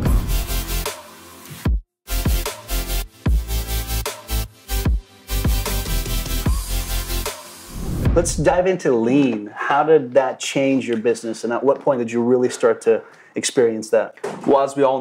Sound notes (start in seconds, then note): 0.2 upbeat music; 7.6 air whooshing